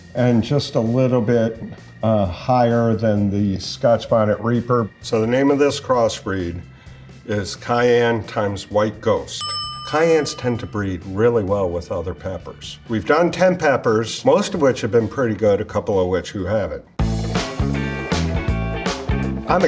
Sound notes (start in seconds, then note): 9.4 bell dings; 17.0 upbeat music